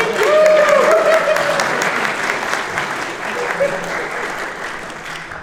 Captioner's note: audience woos and applauses